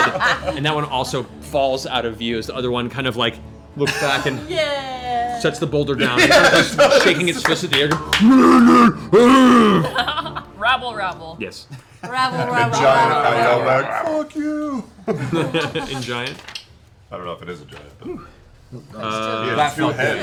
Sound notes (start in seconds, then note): 8.0 angry grunting; 10.2 laughs